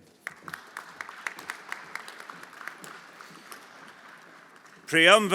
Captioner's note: everyone applauding